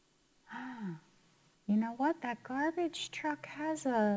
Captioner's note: gasps